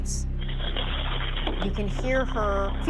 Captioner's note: footsteps on gravel